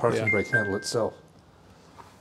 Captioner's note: bell ringing